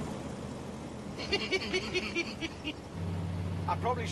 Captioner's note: chuckling